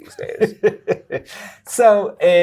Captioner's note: guy laughing